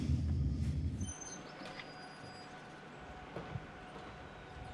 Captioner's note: tires squeal